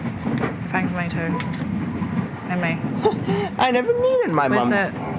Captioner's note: laughter